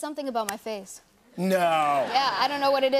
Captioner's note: laughter